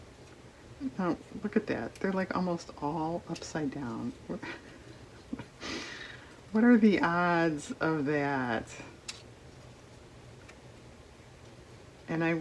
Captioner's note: laughs